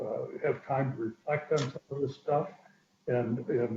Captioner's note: distorted sound; distorted sound